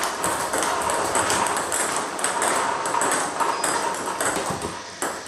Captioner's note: ball ping pong hitting continues